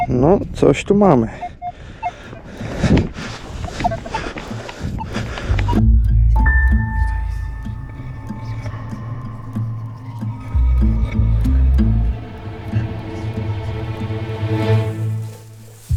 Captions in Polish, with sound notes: No, coś tu mamy. [odgłosy odgarniania śniegu] [delikatna muzyka]